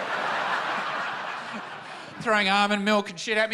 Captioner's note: laughter